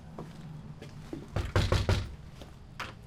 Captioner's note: knocks